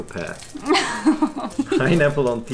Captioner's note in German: lacht